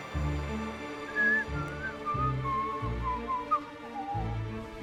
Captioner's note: whistles